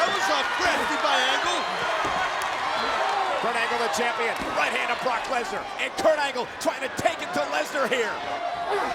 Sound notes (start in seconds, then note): 2.0 audience cheering and clapping